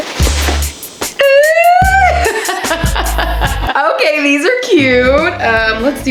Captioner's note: laughs